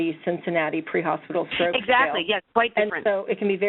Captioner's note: voiceover; voiceover